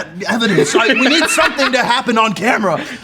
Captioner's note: laughs